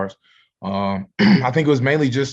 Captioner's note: clears throat